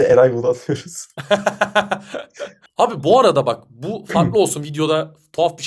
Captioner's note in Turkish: kahkaha